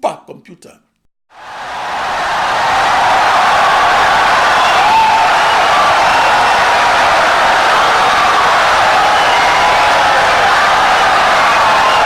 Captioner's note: wild applause and cheering for 17 seconds